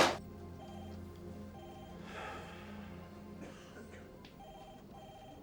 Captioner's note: telephone rings